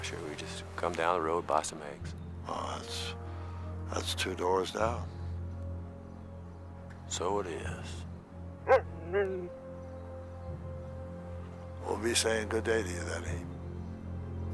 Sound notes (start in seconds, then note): 8.6 Buck barks; 8.6 growls